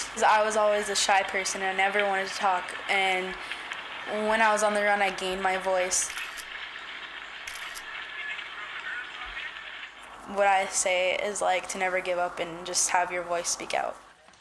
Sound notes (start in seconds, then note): 7.4 camera clicking